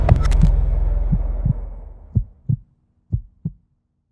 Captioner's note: heart beating